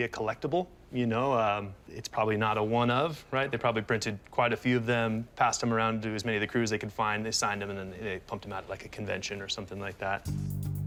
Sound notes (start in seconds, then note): none